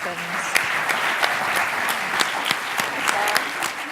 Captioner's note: applause